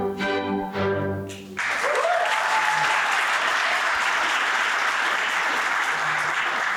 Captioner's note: applause